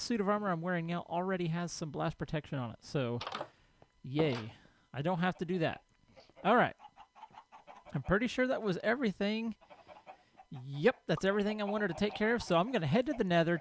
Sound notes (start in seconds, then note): 6.1 chickens clucking; 9.6 llama snorts